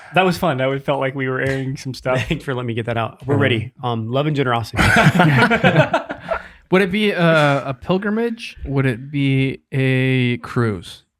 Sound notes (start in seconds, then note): 4.7 group laughs collectively